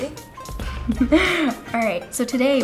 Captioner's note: chuckling